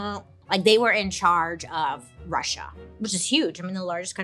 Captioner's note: none